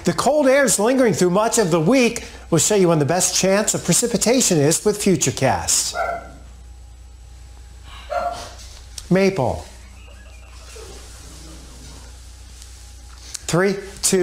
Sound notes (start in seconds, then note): 6.0 dog barking